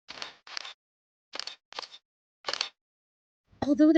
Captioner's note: camera shutter clicking